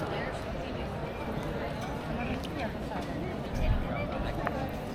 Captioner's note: people chattering